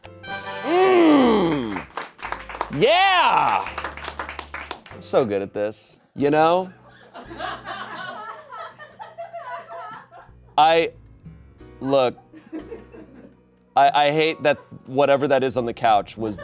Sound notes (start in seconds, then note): 0.0 triumphant music; 3.8 audience applauding; 6.9 audience laughing